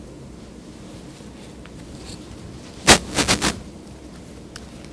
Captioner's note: clothing rustles